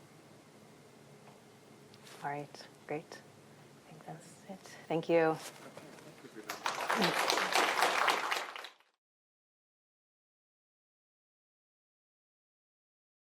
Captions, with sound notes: All right, great. I think that's it. Thank you. [APPLAUSE]